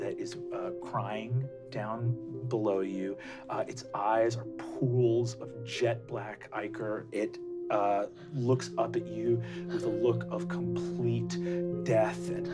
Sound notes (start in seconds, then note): none